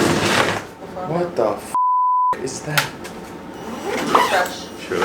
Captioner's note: beep